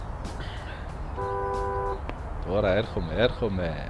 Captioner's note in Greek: Κόρνα!